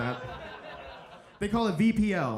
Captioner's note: audience laughing